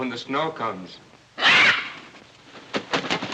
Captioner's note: squawks